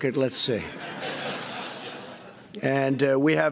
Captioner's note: laughter